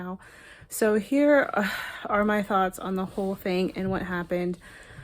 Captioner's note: sighs